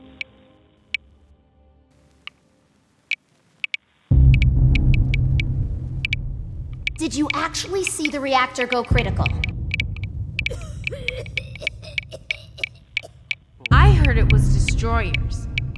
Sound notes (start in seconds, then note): 10.4 coughing